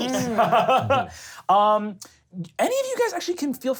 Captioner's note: laughs